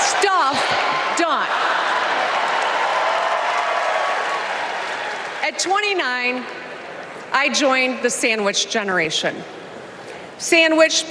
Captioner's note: applause